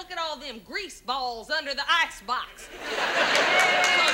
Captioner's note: audience laughs